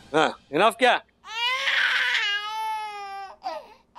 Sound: baby crying

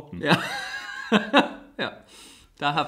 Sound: laughs

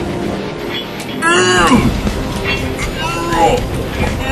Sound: grunting

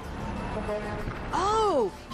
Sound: horn honks

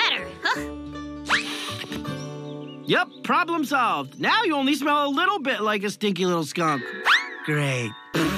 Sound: sniffs

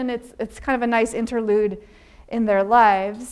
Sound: none

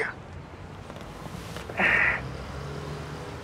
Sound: gasps

